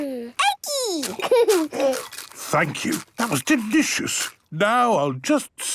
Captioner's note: laughing, crunching